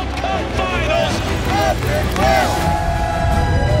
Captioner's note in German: Familie jubelt